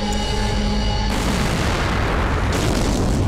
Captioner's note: Explosion